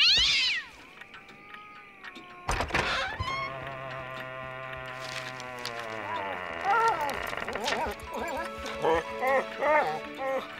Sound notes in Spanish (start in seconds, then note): 0.2 gato chillando; 2.4 puerta crujiendo